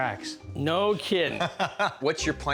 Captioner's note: laughs